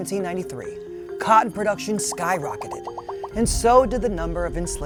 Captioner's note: cotton popping